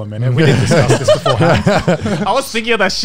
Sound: laughs

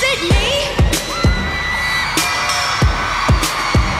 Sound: cheers and applause

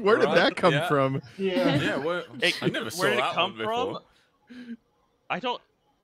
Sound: laughter

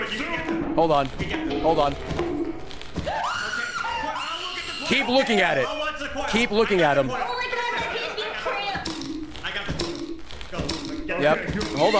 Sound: screams

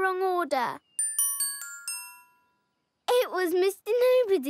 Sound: dinging

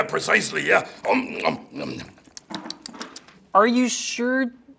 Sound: smacks lips

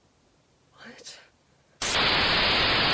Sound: Static

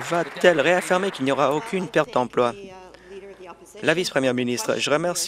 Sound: applause

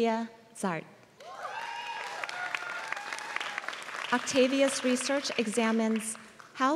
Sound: applause

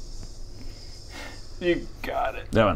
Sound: restrained sigh

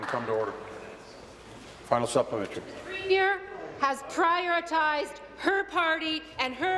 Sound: applause

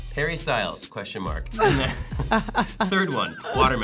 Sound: laughing

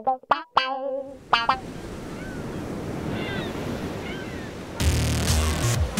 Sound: tropical beach ambience

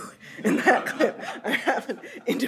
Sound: audience laughs

